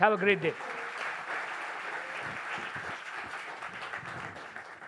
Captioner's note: applause